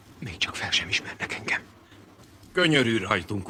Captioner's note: whispering